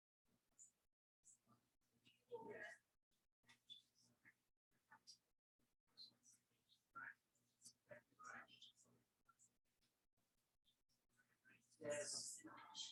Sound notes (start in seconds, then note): 2.3 people chattering indistinctly